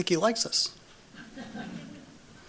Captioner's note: laughter